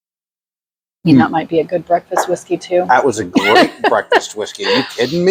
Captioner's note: laughs